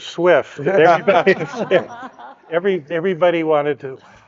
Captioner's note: speakers laughing